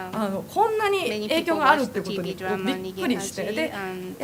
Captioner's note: japanese